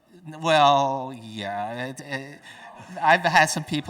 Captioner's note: audience chuckling